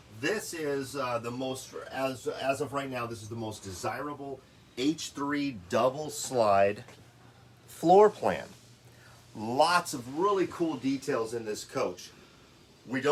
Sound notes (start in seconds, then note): none